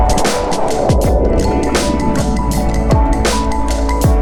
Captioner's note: air whooshing